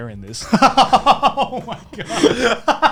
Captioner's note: laughing